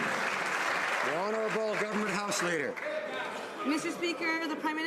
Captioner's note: some Applause